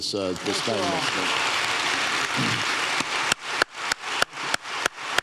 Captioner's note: applause drowns out speaker; audience applauds